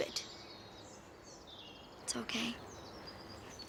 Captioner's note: none